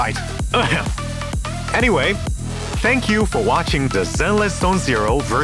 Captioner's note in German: räusper